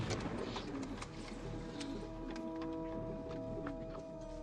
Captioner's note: pigeons cooing